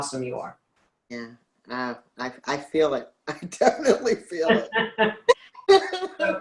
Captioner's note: laughs